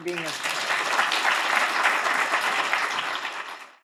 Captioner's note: applause